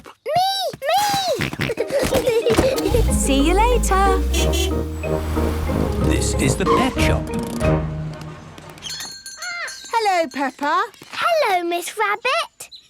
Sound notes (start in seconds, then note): 1.1 kids giggling; 1.2 snorting; 2.6 honking; 8.8 bell jingling